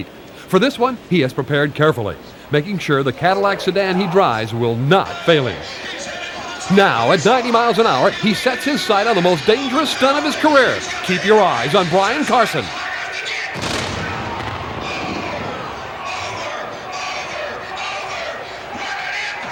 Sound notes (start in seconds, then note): 13.5 explodes